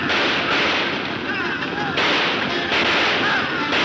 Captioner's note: gunshots banging